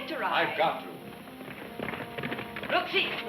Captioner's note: hooves thudding